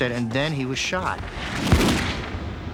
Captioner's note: gun fires